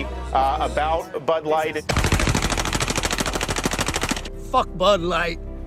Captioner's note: rapid gunfire